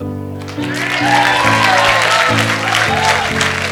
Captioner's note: cheering